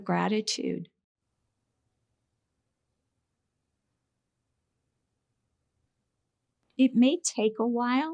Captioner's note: silence